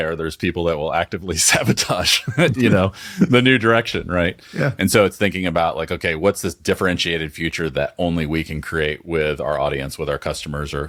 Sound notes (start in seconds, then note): 4.0 laughing